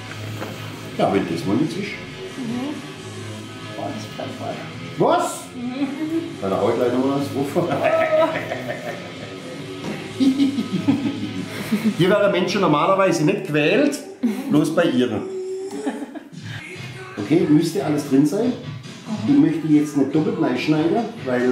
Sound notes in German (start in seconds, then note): 9.9 alle lachen; 15.4 lacht